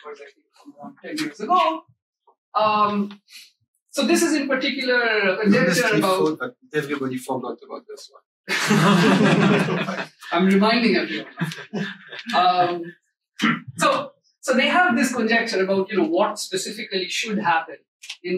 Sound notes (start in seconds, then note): 8.5 all laugh